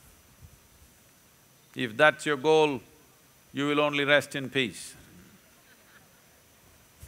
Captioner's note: few laugh